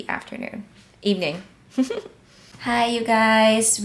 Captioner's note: laughs